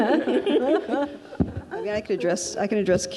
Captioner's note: laughs; audience laughs